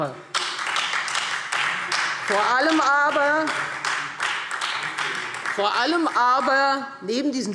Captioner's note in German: Beifall Freie Demokraten